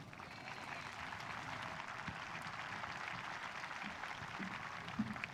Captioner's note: audience applauding